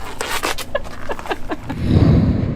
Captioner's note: laughter